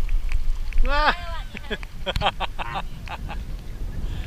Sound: laughs

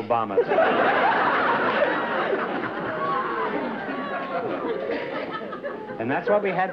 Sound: laughter

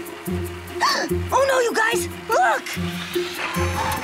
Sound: gasping

